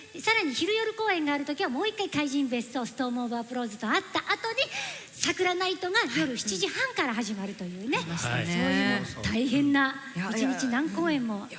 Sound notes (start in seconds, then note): none